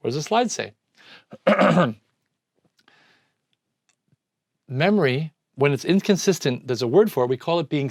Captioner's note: clears throat